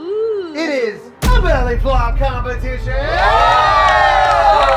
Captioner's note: cheers